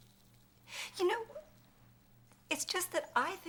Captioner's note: sobbing